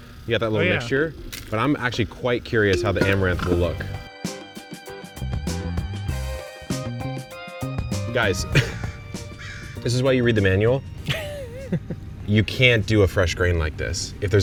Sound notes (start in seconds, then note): 2.7 upbeat rhythmic music; 8.5 laughing